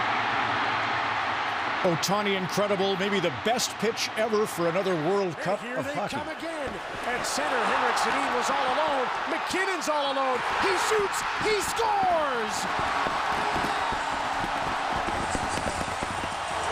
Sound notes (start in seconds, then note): 3.0 cheering and Applause